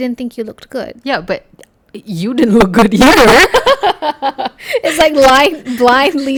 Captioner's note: laugh